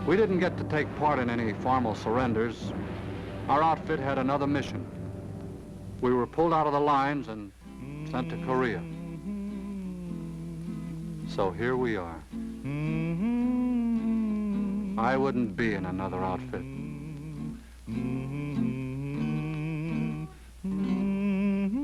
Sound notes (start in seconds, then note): 9.4 guitar strumming; 9.4 humming; 17.4 guitar strumming; 17.4 humming